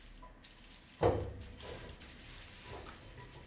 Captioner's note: clattering, rustling